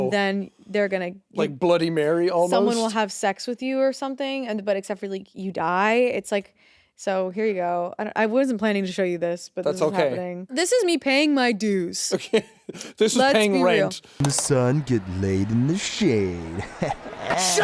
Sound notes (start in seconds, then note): 12.6 chuckles; 17.0 chuckles